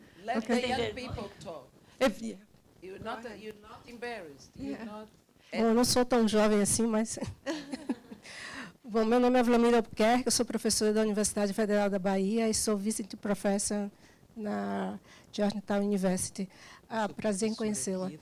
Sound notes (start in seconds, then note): 0.0 speaking Portuguese; 5.9 student speaking Portuguese